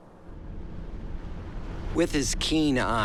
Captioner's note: waves crashing